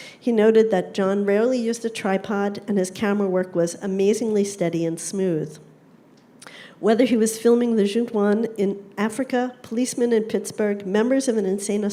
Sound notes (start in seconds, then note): none